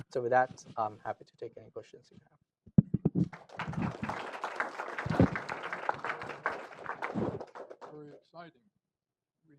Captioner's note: applause